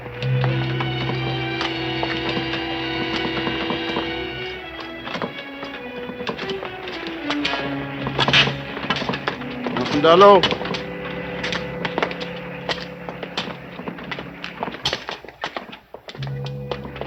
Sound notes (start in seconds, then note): 0.2 clattering; 0.2 ominous orchestral music; 9.7 speaking in foreign language